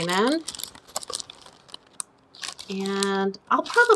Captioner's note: plastic rustling